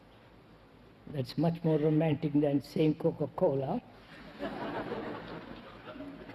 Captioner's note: Risas